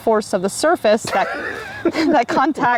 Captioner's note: laughs